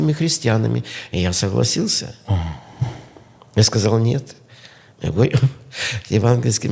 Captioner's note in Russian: откашливается